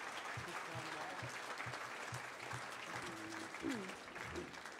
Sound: audience cheering

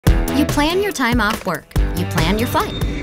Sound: voiceover

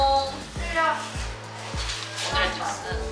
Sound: rustle

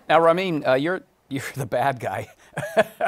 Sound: laughing

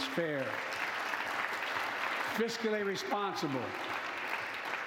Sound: applause

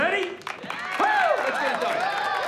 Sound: crowd clapping

